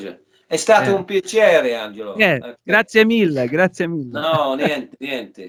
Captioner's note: talking in italian